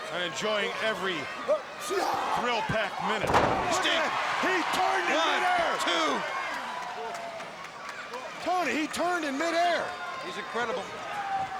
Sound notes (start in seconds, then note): 4.4 audience cheering; 6.2 attendees applauding